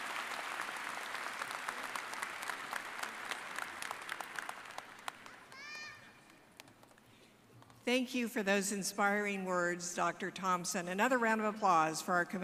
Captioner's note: applause